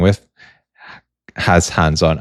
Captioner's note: sighs and gasps